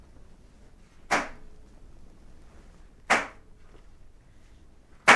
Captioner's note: knife thuds continues